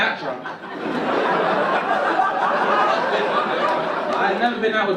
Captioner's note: audience laugh